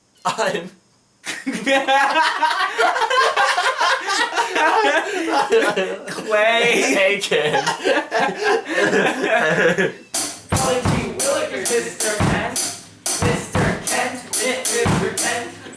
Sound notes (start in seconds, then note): 1.2 laughter